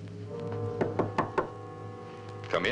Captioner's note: knocking